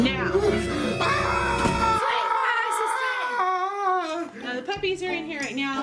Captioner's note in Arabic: صراخ